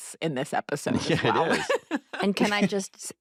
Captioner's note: laughs